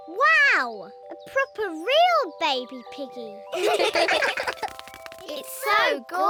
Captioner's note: all laugh